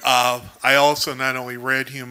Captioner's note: laughs